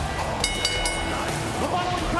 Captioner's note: bell ringing